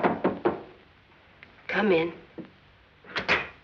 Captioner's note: knocking